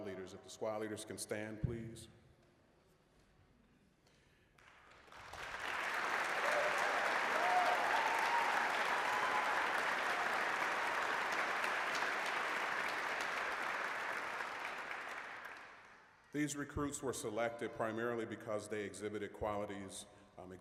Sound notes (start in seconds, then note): 4.5 applause